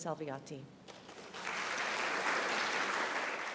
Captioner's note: applause